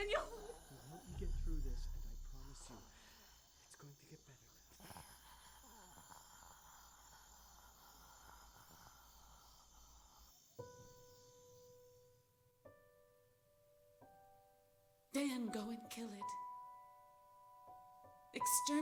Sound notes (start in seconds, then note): 5.9 gasping